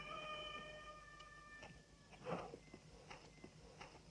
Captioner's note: rooster crowing